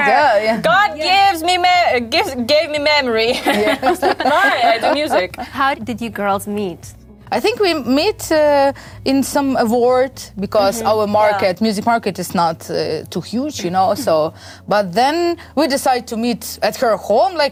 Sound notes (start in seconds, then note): 3.2 laughing